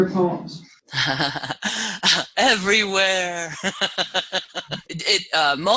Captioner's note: laugh